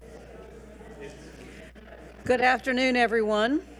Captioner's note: attendees chattering